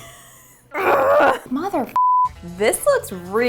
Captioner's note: beep